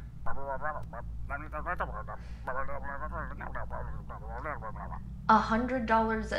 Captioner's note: distorted reply